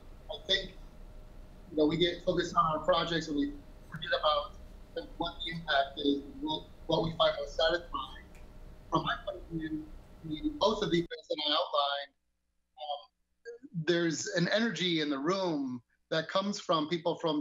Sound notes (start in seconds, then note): 9.8 mic cutting out